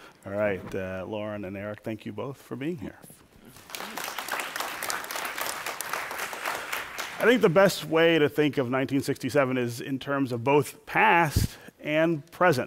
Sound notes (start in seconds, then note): 3.5 applause